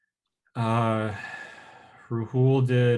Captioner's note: exhales deeply